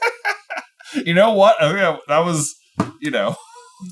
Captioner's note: laughing